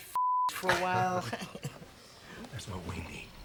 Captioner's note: laughing